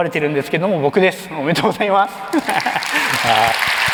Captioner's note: laughs; applause